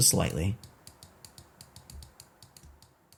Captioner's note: keyboard clacking